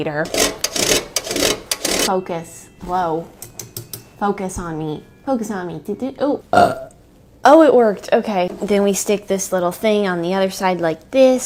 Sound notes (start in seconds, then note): 0.2 grating sounds; 5.1 stammers; 6.5 burps